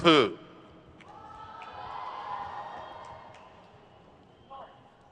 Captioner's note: crowd cheers